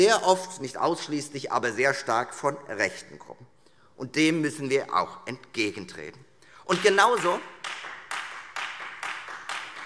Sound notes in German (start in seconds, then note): 6.7 Beifall Freie Demokraten